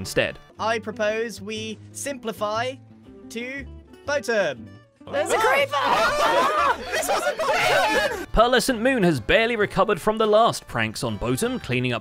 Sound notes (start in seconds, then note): 5.1 panicked shouting